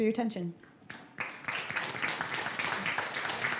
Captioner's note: applause